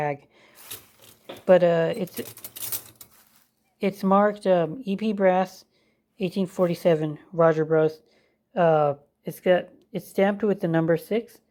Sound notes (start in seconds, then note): 0.7 clank